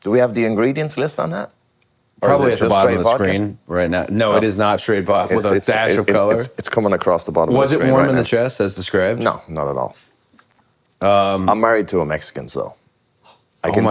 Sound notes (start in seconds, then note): none